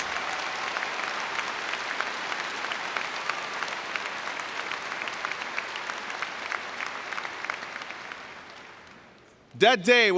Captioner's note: cheering and Applause